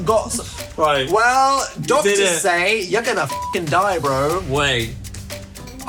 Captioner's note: beep